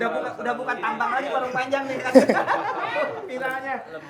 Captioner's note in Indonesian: tertawa